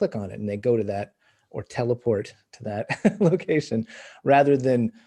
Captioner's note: chuckles